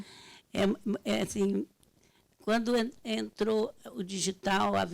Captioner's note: speaking Portuguese